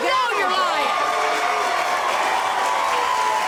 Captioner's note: cheering